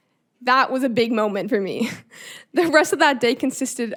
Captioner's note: chuckling